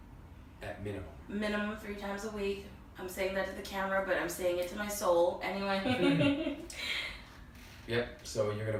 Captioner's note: laughs